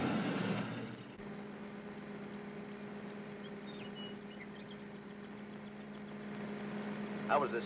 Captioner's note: car accelerates away; car engine hums; birds chirp